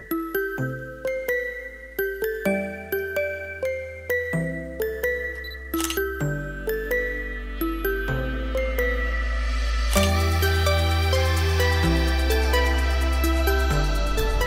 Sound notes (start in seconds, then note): 0.3 light, upbeat music; 5.3 camera beeps and clicks; 10.0 camera beeps and clicks